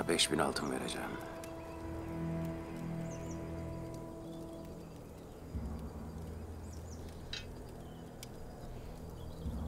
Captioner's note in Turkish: Kuş cıvıltısı sesleri